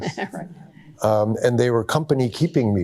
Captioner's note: chuckling